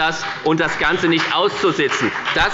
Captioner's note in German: Beifall bei der FDP